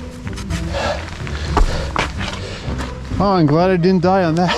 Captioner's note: breaths heavily; laughs